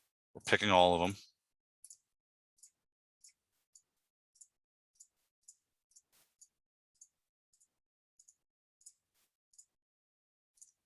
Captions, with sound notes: We're picking all of them. (mouse clicking)